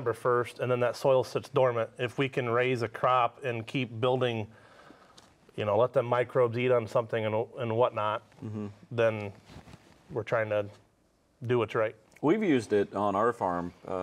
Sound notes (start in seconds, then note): none